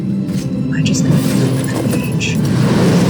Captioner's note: whispered